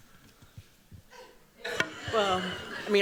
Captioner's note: chuckling